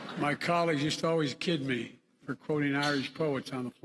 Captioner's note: laughter